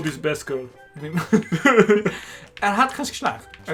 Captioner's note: laughter